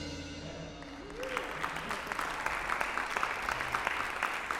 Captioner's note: audience applause